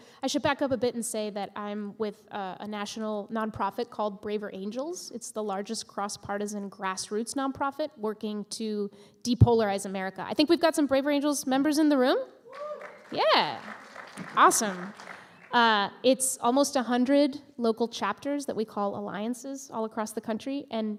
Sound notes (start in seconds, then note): 12.4 A few cheers and applause